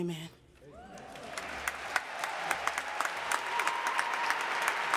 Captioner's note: audience applauding